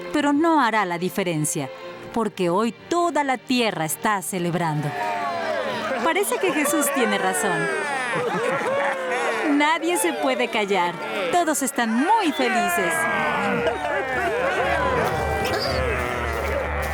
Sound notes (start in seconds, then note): 7.2 cheering; 12.7 grumbling